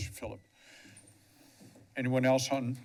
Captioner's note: pause